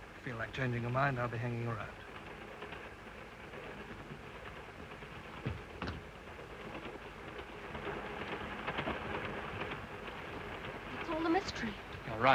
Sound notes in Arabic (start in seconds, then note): 3.1 صوت خشخشة القطار